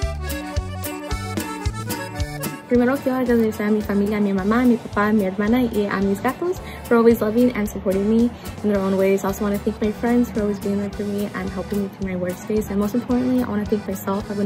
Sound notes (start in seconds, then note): 2.6 speaks in foreign language